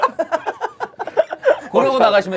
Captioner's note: laughing